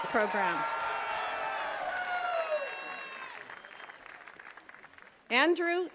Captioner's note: attendees cheering and clapping